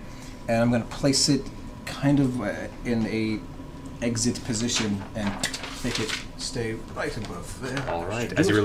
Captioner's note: clicks